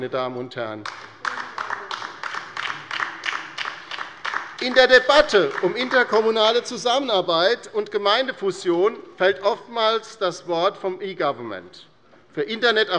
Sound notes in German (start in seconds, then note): 0.8 Beifall bei der LINKEN